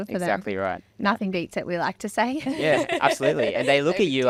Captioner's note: laughing